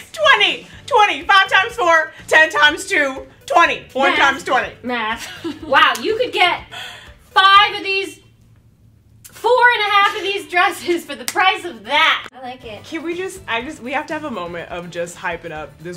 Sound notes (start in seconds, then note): 4.9 laughs